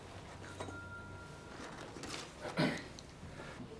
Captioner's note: champagne flute tings; objects rustling; Addison clears throat